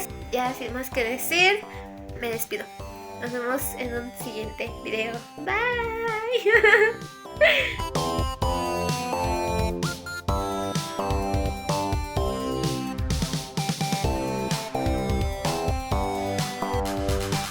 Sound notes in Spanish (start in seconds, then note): 6.3 risas